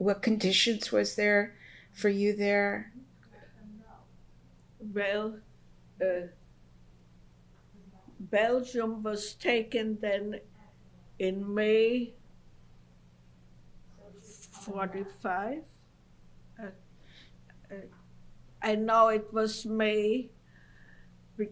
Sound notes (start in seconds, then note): 5.9 pauses for 3 seconds